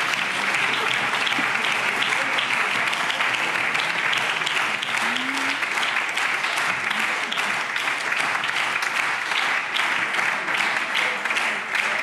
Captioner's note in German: Anhaltender Beifall BÜNDNIS 90/DIE GRÜNEN, CDU, SPD und Freie Demokraten